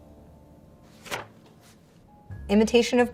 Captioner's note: page rustles